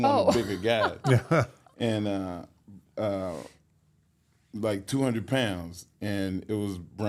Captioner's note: laughs